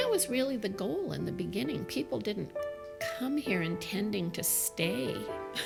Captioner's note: chuckles